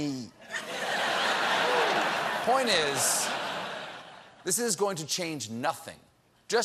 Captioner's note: laughter